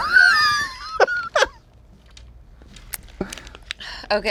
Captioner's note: laughs